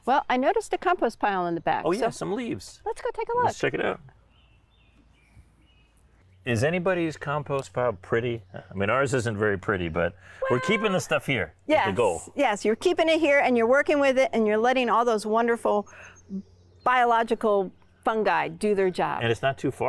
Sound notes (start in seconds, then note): 4.9 birds chirping